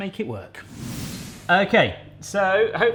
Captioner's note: air whooshing